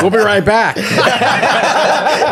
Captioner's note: all laughing